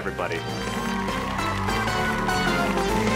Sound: crowd cheering and clapping; upbeat music

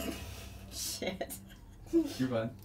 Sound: deep breaths

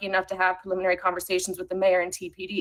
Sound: ~audio distortion~

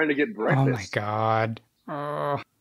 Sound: laughs

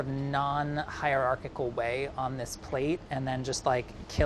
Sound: none

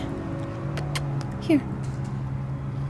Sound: kissing sounds

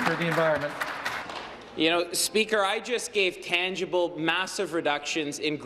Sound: some Applause

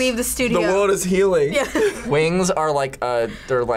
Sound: laughs

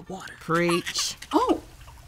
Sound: baby cries

